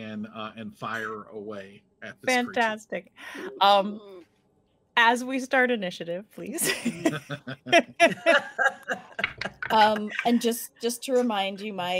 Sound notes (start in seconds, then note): 6.6 laughing